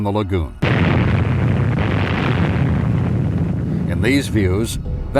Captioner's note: explosion bursting